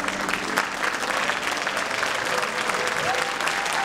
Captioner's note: applause